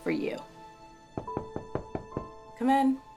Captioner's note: knocking on door